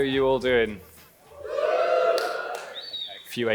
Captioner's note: clapping